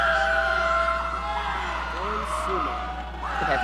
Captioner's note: audience cheering